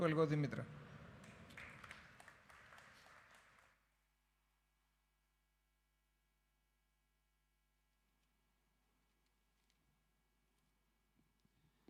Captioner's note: applause